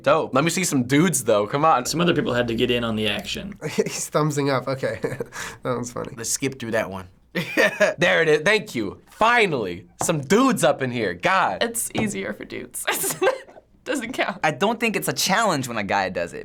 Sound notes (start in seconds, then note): 4.8 chuckling; 7.5 laughing; 12.8 laughing